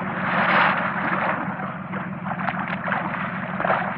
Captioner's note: splashing